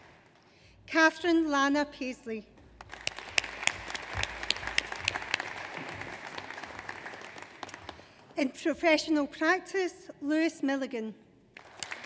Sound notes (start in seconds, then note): 2.8 audience applauds; 11.6 audience applauds